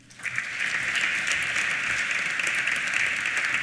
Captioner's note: applause